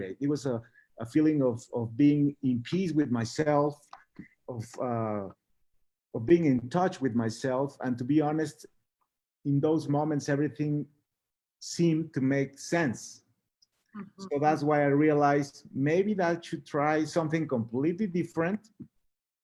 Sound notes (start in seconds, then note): none